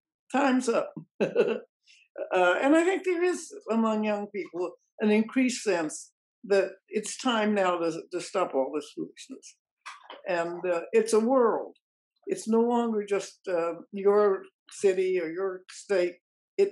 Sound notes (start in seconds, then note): 1.0 chuckle